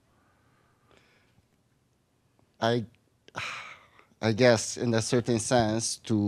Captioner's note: sighs again